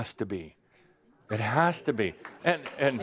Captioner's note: some applause